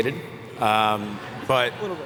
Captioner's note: laughter